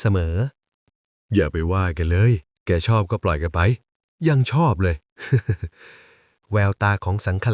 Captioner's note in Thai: เสียงหัวเราะ